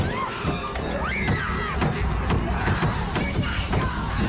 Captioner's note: pounding; screaming; pounding